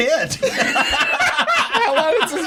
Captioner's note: laughter